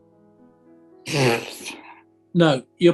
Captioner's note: splutters